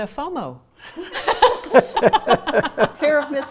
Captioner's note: laughter